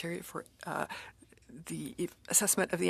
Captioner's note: speaking FRENCH